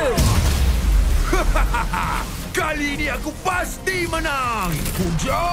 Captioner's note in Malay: ketawa